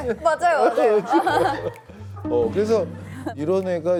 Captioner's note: haha